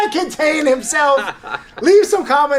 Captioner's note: laughs